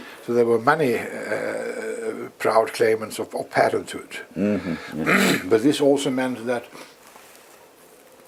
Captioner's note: cough